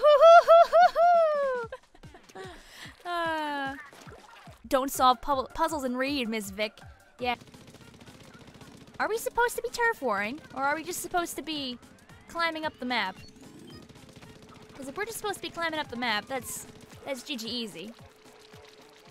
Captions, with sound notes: (pained laughter) (sighs) Don't solve puzzles and read miss Vic. Yeah. (bullets firing) Are we supposed to be turf warring? Or are we just supposed to be climbing up the map? Because if we're just supposed to be climbing up the map, that's GG Easy. that's GG Easy.